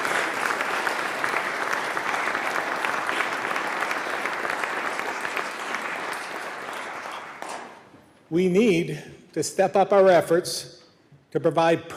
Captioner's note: applause